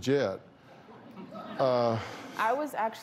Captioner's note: laughter